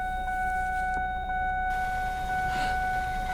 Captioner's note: seatbelt alarm dinging